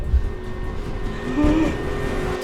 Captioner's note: gasps